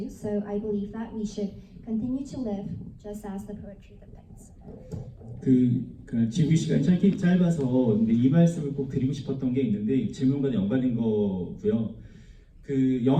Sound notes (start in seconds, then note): 5.7 foreign language